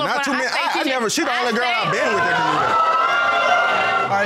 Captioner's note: audience exclaims